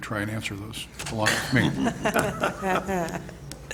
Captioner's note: board members chuckle